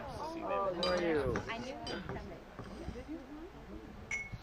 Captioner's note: people chattering